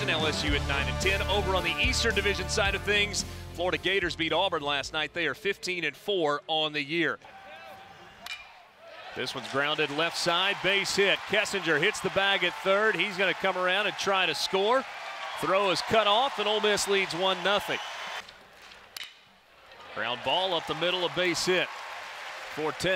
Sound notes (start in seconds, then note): 8.2 ball hitting bat; 18.7 ball hitting bat